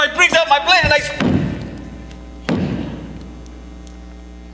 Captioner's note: fists thudding